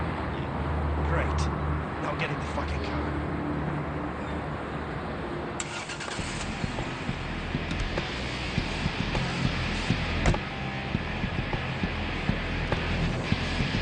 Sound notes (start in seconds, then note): 0.1 car engines whir; 5.8 car engine whirs; 6.1 rock music; 10.2 car door clicks closed